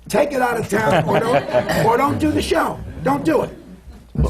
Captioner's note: laughter